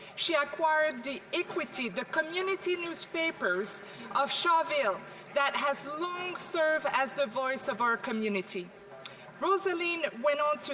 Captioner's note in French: voix de l'interprète